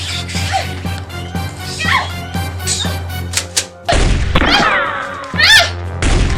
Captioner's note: creature squeaking; gun cocks; scream; creature howls